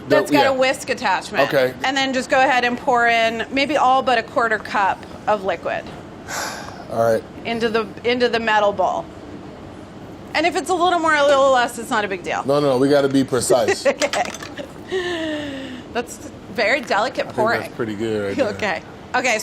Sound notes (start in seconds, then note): 6.2 sighs; 14.2 laughs